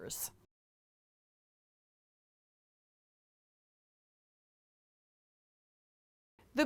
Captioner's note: no Sound Present